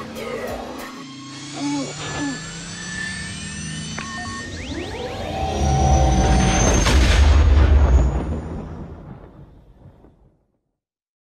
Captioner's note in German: Millennium Falcon Start Sound